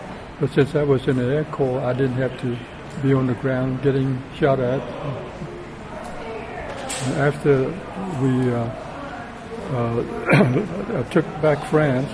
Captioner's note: clears throat